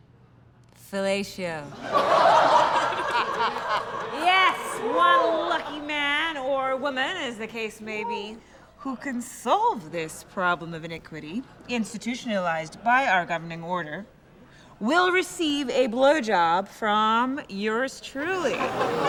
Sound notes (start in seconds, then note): 1.7 laughter